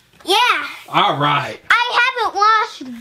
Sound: voiceover

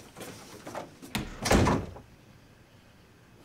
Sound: door shutting

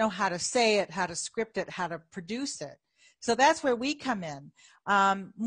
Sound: none

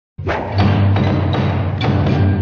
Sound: banging along to music with hammer

